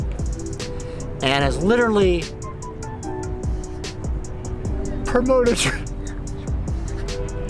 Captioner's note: sniffles